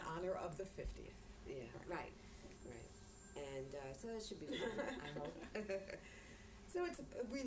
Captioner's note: laughter